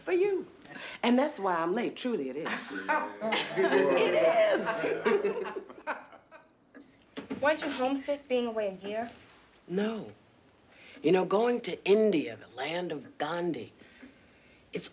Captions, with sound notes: For you, and that's why I'm late, truly it is. - Yeah, right. - It is! (all laughing) - Weren't you homesick being away a year? - No, you know, going to India, the land of Gandhi,